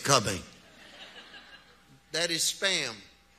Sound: audience laugh

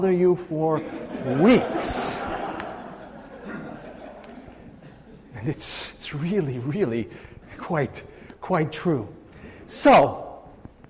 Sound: laughing

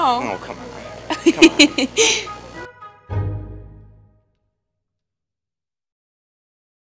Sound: laugh

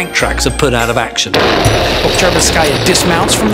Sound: explosion booms

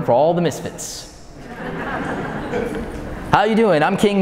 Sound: audience laughing

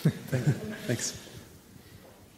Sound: laughter

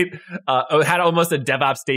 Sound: laugh

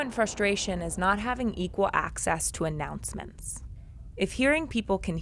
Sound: muted traffic rumbling

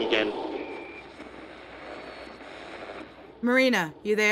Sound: static

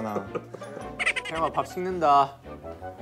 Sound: laughing

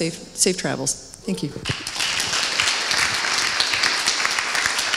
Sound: audience applauds

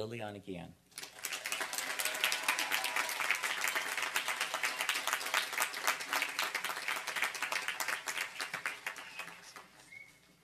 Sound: applause

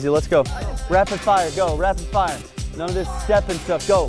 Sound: voiceover

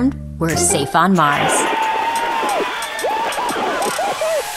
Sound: crowd cheering

